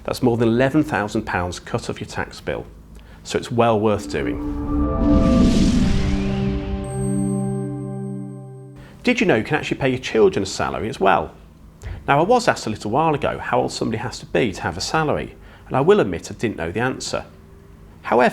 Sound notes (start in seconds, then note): 3.8 graphics whooshing; 3.9 gentle music